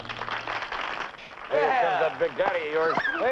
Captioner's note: audience applauding